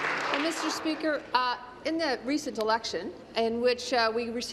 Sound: applause

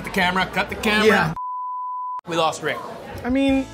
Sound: beeps

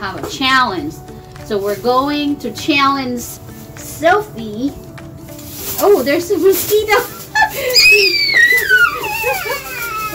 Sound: high pitch screaming sound

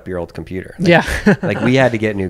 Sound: laughs

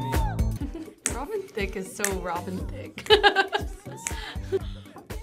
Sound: laughs

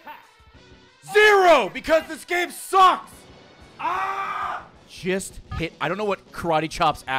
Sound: screams

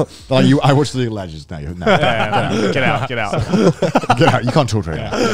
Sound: all laughing; group chattering

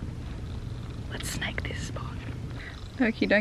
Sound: whispers

